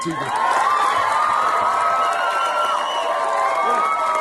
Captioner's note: audience cheering